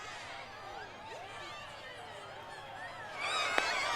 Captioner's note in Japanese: 大歓声